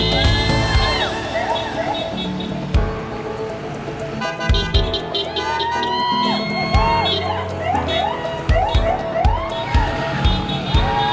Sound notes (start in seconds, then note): 0.0 horns honking; 4.2 horns honking; 5.2 crowd cheering; 7.6 police sirens